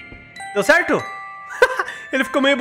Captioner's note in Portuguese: risos